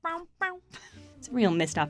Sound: laughter

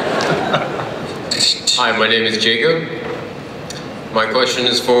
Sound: voiceover

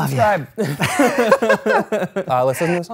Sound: laughter

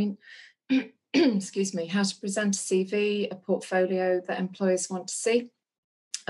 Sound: clears throat

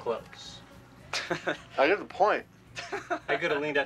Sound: laughs

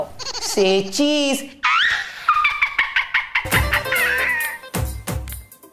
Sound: demonic laughter

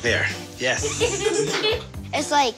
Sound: laughing

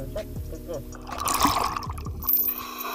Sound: water splashing; breathing

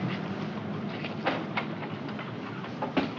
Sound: door opens

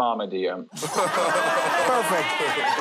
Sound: all laugh loudly

